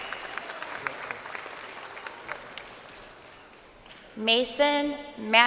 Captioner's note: crowd cheering